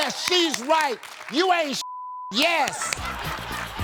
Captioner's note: beep; crowd laughing